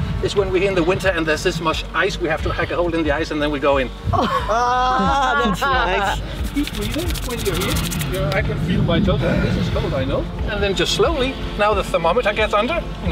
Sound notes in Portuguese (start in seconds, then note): 6.3 som do esfregando as mãos